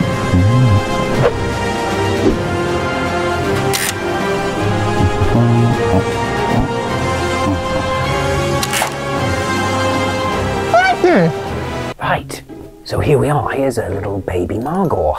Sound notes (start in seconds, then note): 4.3 bin hand hums happily; 4.3 gun creaks shut